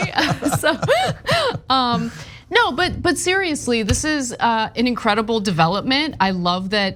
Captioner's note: laugh